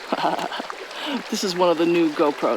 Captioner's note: laughs